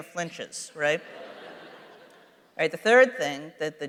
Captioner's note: laughter